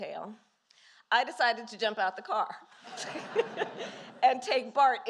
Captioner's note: laughter